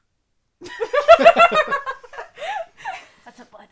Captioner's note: laughter